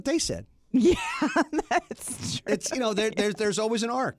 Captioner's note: laughs